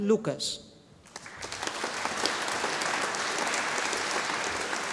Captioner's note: audience applauding